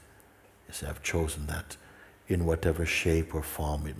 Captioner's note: none